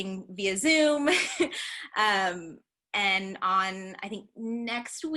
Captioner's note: laughter